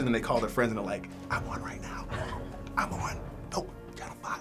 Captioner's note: whispering